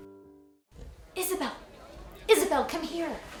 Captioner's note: people chattering